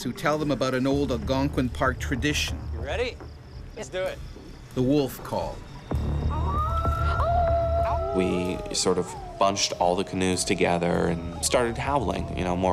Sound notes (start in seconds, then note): 4.8 voiceover; 6.2 everyone howls